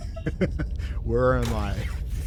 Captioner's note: laughs